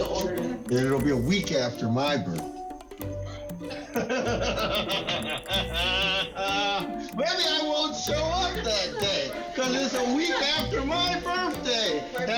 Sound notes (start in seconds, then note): 3.9 laughing